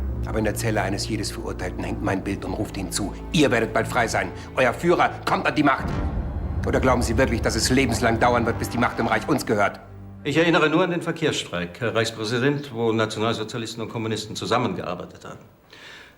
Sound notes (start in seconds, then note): none